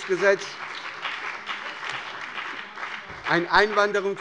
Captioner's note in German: Beifall bei der SPD und der FDP